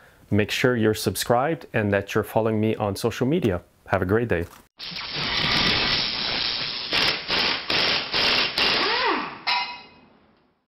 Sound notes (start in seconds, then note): 4.8 electricity buzzing; 6.8 air wrench whirring